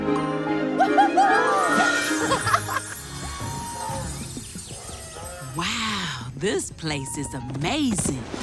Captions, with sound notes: -[whooping] -[chuckling] Wow, this place is amazing.